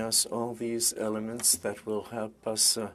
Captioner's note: speaking French